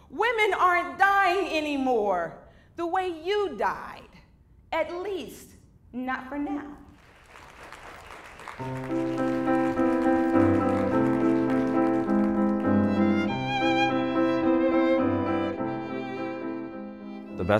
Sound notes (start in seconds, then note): 11.7 applause